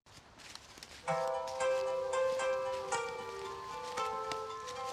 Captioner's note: phone starts ringing